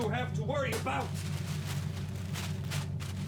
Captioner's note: papers rustling